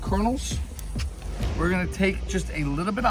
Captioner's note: air whooshig